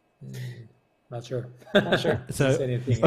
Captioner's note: chuckles